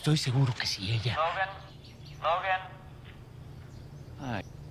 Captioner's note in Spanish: Voz en la radio